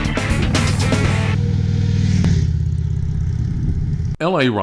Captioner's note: engine roars